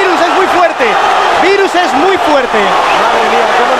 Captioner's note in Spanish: Gritos